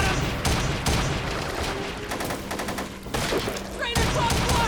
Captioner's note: guns firing